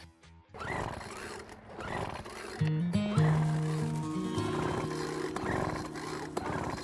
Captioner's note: motor purrs, then stops